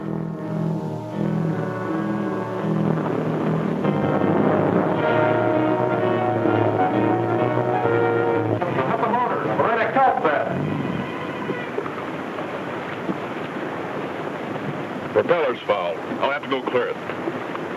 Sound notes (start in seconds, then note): 4.4 boat hums; 4.4 dramatic music